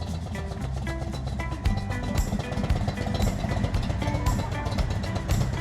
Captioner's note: upbeat music; motorbike engine revving